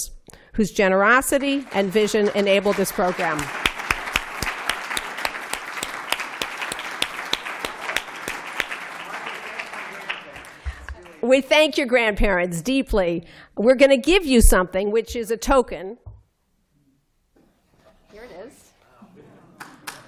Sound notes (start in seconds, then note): 10.2 applause